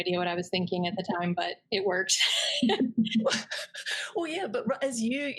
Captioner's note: laughs